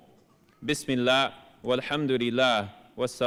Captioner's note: speaking arabic